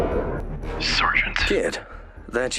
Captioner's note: radio